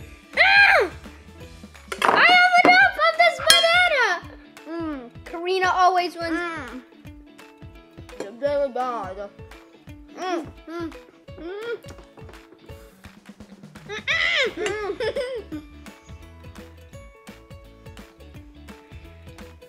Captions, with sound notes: I have enough of this banana! Karina always wins. Mm, it's really bad. (Mumbling)